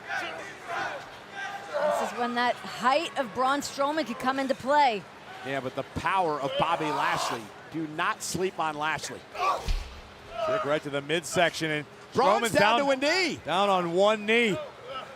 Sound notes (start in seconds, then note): 0.1 crowd chanting; 9.3 wrestlers grunt